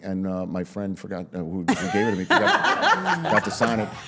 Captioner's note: all laughing